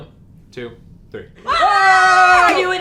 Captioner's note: screaming